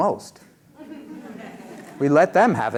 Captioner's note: laughter